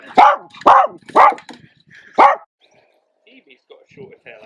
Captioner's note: dogs barking